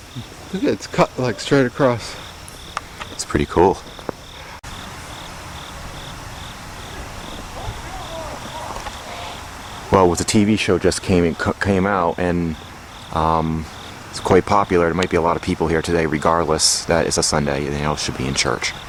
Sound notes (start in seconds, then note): 4.8 cricket Noises; 7.5 man shouting in Background